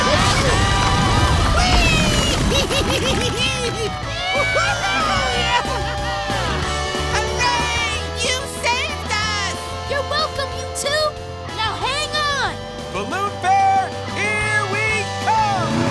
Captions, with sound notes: Wee! [cheering] Hooray! You saved us! You're welcome, you two! Now hang on! Balloon Fair, here we come!